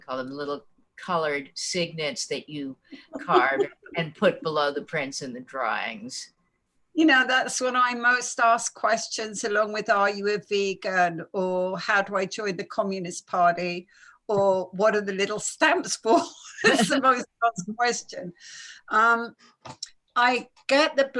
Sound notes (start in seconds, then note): 16.6 laughing